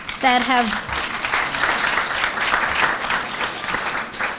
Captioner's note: applause